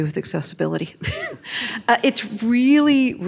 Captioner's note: laughs